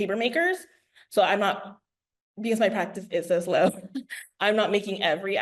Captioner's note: laughs